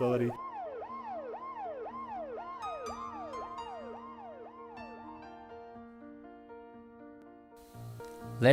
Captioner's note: siren wailing